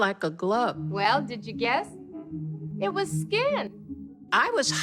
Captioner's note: soundbite of tv show, "sesame street"